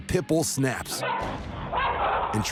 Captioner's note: pit bull barks